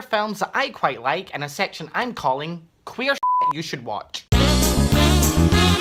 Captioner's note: beep